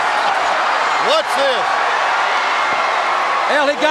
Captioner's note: crowd cheering